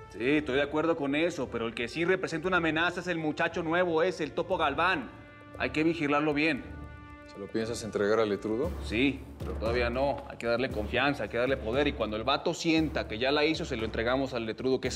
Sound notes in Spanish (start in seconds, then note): none